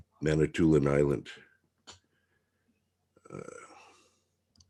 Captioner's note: mouse clicking